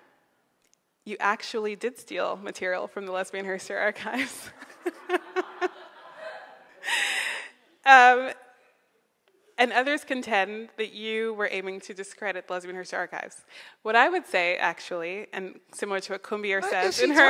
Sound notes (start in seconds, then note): 4.6 laughing